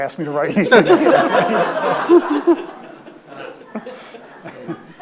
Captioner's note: audience laughs